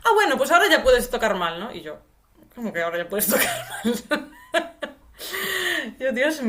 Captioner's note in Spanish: risas